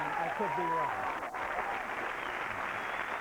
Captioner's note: applause